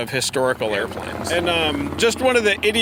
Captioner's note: airplane engine roaring